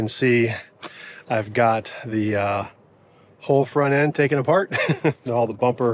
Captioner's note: laughs